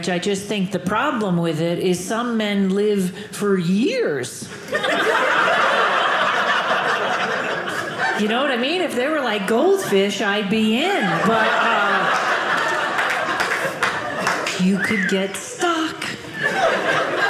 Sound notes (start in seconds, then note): 4.6 audience laughing